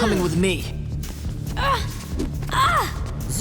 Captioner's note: groaning